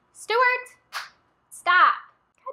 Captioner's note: clap